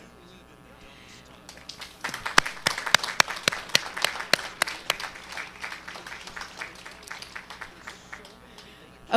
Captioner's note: applause